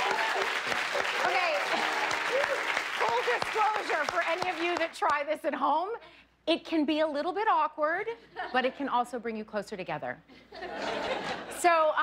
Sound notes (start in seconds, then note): 5.5 cheers and applause